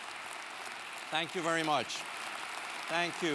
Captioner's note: applause